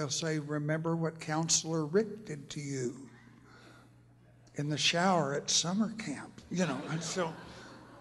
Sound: laughter

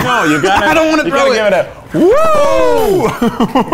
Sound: laughs; whoosh sound; laughs

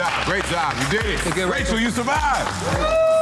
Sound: all clapping

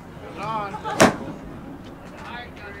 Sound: laughs; golf club striking

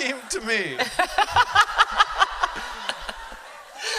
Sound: laughter

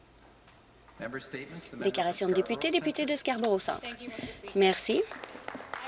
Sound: applause

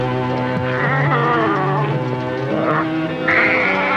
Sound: rhino braying

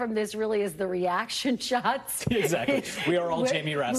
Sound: laughter

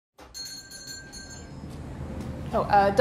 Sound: doorbell chimes

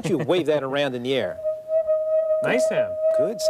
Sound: wavy tubey high humming sound

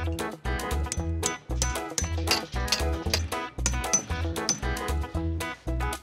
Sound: hammering

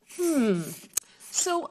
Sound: humming thoughtfully

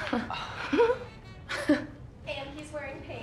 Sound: chuckles; giggles

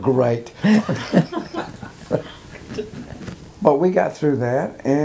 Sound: laughing

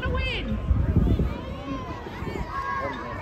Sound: crowd shouting out their favourites

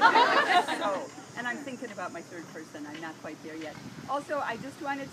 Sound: laughing

